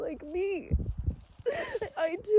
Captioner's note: wind gusts